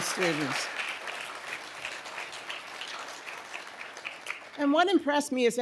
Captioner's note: audience applauding